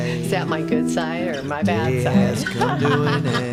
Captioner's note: laughs